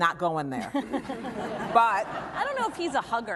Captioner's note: laughter